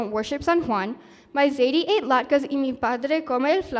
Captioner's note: speaking spanish